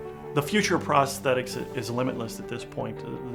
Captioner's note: voiceover